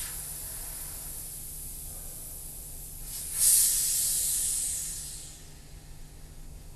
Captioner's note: hissing sound from the can